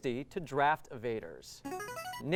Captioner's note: ringing